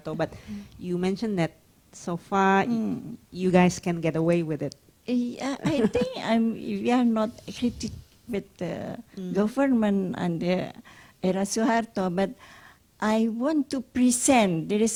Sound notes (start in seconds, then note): 5.6 laughs